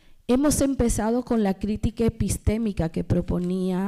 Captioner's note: speaking spanish